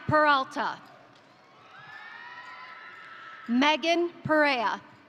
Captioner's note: crowd cheering; crowd applauding